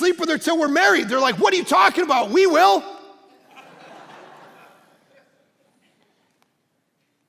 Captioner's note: congregation laughing